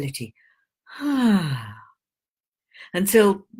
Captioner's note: relieved sigh